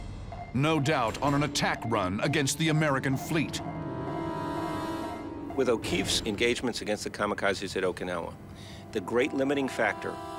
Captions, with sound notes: No doubt on an attack run against the American fleet. [beeping] With O'Keefe's engagements against the kamikazes at Okinawa, the great limiting factor